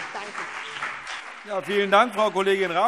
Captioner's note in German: Beifall CDU und BÜNDNIS 90/DIE GRÜNEN